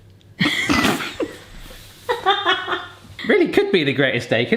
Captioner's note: both laugh